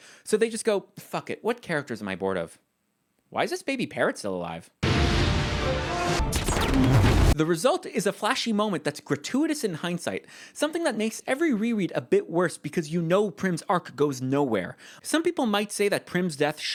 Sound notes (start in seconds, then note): 4.8 kea-boom; 4.9 Death Note swoosh